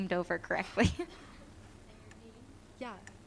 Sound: laughter

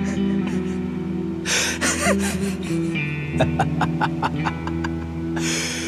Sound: laughs

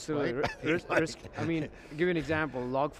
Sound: laughs

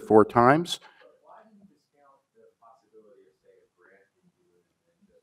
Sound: man speaks faintly

